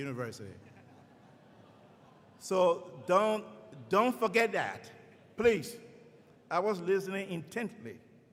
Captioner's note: laughing